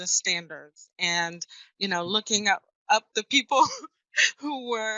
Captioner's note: laughs